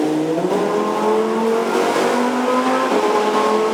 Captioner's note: engine roaring